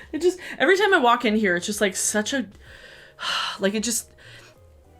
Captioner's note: exhales